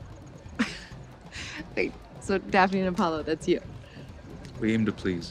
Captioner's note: laughs